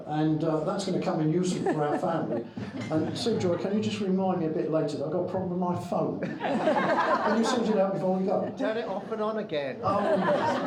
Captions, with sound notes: and that's gonna come in useful for our family. Sujoy, can you just remind me a bit later that I've got a problem with my phone? (crowd laughing) Can you send it out and go? Turn it off and on again. Oh, yes.